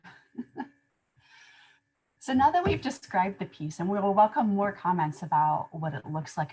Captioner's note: laughter